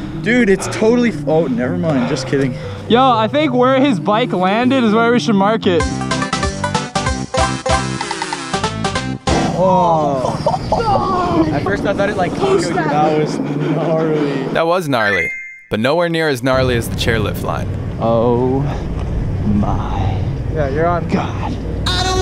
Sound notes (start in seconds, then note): 6.0 playful music; 9.8 group gasping